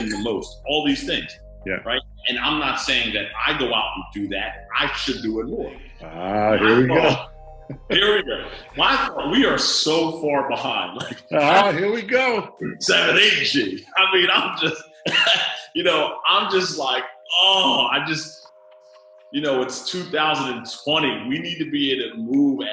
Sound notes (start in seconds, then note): 10.8 laughing